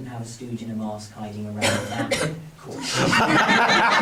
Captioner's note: woman Coughing; laughing